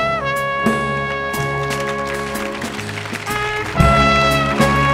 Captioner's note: audience applauding